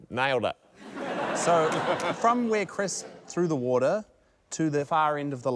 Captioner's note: laughter